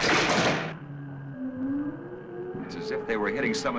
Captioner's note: crackles